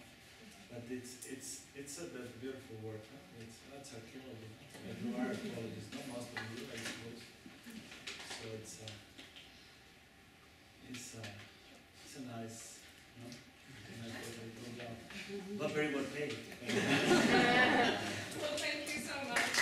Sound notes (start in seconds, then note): 16.6 laughter